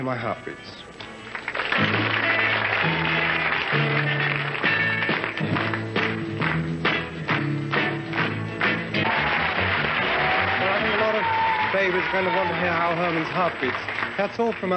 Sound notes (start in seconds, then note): 1.0 music and applause; 8.6 cheers and applause